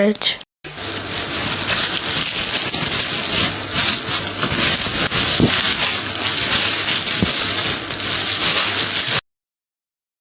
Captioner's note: sound of wrapping the dough in cling film